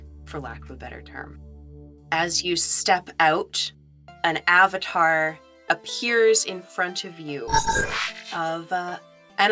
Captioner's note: electronic chirp